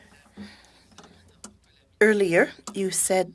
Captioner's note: speaking French